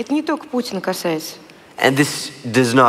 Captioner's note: foreign Language